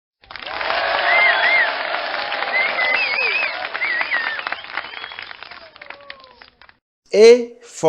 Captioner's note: audience Cheers, Claps and Whistles